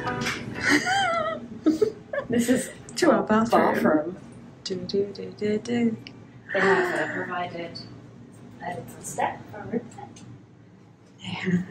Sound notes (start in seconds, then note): 0.6 laughs